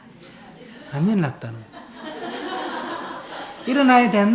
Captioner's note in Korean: 청중 웃음